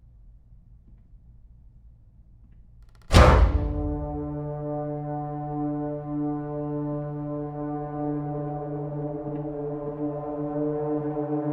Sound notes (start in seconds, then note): 3.0 door slams; 3.1 dramatic, menacing music